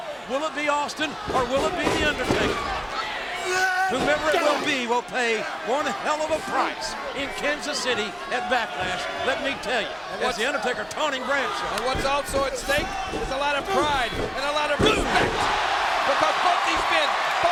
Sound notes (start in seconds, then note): 3.0 Undertaker screaming